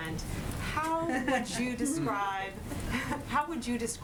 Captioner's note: laughter